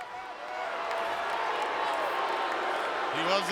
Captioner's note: audience boos